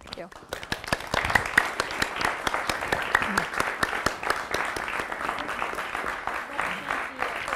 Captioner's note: audience applause